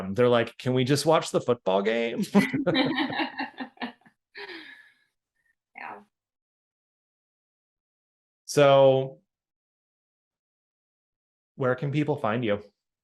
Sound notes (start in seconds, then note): 2.3 laughing